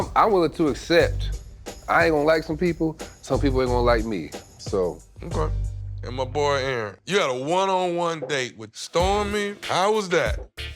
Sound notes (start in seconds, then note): none